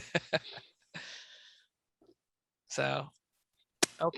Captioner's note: laughs